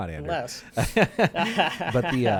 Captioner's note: laughing